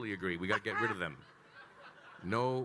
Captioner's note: attendees laughing; laughing